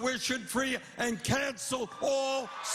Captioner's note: cheers and applause